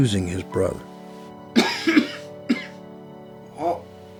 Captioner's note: coughing